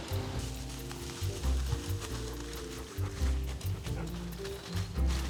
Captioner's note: plants rustling